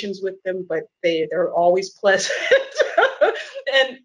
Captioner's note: laughs